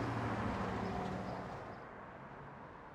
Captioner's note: traffic sounds